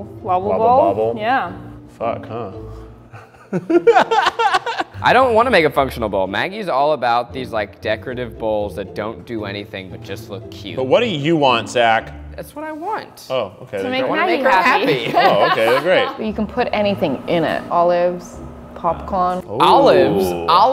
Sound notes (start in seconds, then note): 3.1 laughter